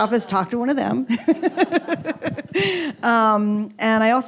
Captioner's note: chuckles